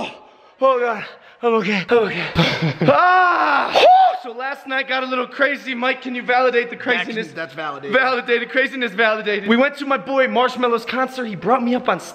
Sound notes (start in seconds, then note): 2.0 laughing; 2.8 screams